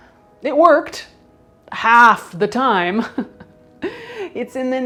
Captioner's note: chuckles